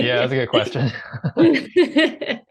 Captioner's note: chuckling